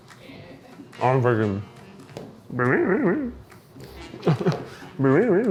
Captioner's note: imitates buzzing